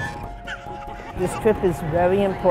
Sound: laughter

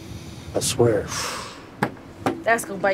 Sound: exhales sharply

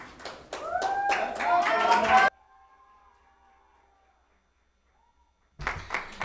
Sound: people cheer; audience applauds

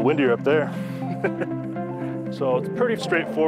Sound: laughs

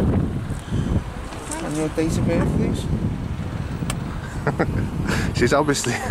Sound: laughs

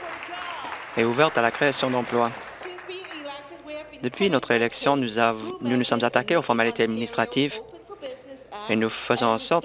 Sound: applause

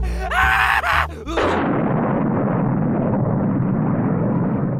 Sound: laughs like a maniac; thunder

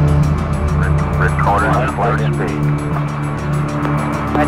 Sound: radio chatter

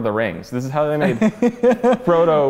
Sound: laugh

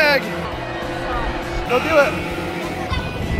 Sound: buzzer

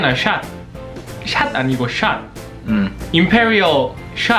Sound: korean english accent

